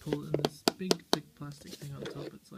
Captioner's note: tapping plastic